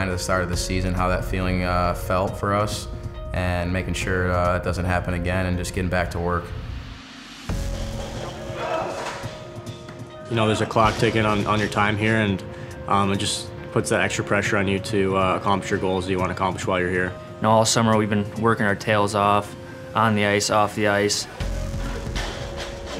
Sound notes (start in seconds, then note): 8.4 men yell; 8.5 dramatic music